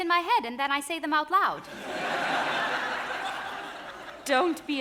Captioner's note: audience laughing